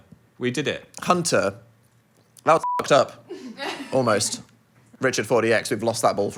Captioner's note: beep